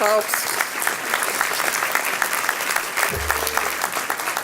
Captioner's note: clapping